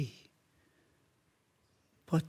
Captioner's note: soft breathing